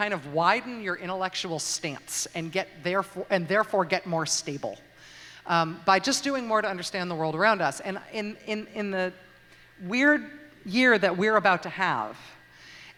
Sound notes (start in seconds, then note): none